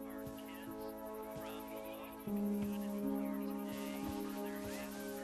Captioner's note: footsteps